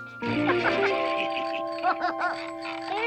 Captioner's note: light chiming music; laughing